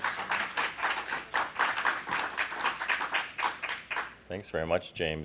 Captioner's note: applause